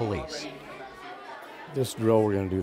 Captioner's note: children chattering